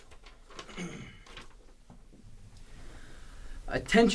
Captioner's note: clears throat